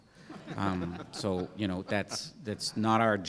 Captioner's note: laugh